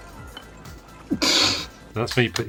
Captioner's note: laughs